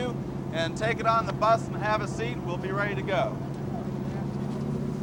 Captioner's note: people chattering